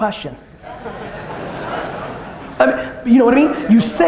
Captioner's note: audience laughter